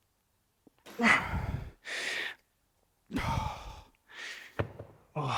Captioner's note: lifting weights